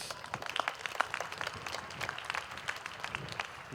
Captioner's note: applause